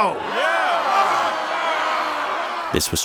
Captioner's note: crowd yelling